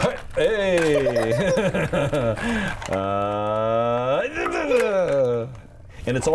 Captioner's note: playing, making goofy sounds, joining his stimming